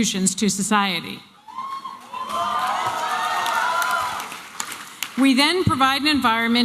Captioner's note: applause and cheering